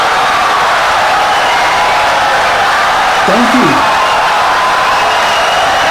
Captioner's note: wild applause and cheering for 17 seconds